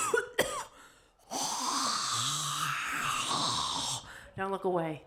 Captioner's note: coughing; imitates air slowly whooshing